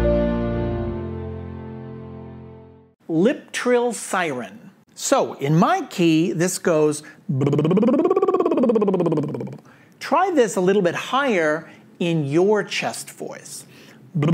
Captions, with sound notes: - Lip trill, siren. So in my key this goes (trills). Try this a little bit higher in your chest voice.